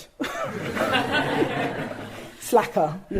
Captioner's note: audience laughing